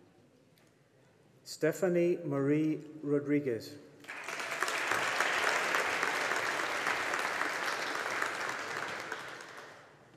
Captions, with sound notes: Stephanie Marie Rodriguez. (AUDIENCE APPLAUDING)